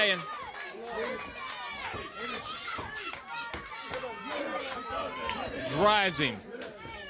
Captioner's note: crowd chatter